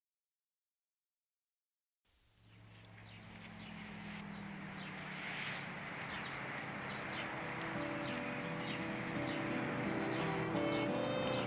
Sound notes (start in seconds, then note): 2.4 birds chirping; 2.4 engine rumbling; 7.1 gentle music